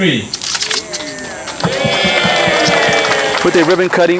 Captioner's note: crowd cheering